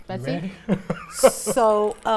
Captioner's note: chuckling